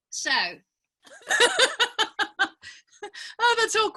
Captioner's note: laughing